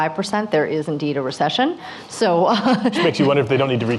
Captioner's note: laughs